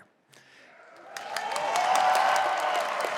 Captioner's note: applause